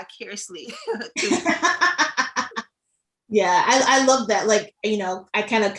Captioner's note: laughs